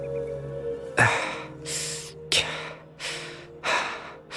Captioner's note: panting